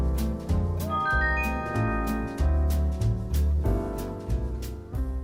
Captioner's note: ascending chime